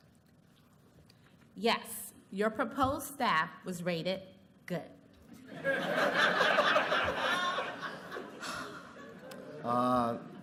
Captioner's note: laughter